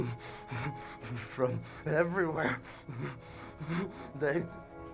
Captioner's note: shuddering